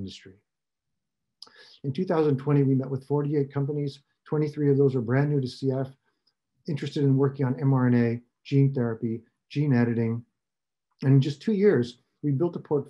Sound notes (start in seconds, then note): none